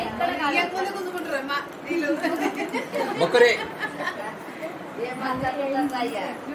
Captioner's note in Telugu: నవ్వు